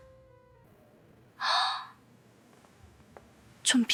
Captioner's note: gasping sound